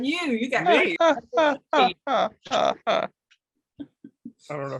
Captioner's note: laughing